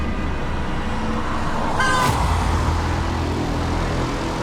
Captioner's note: horns honking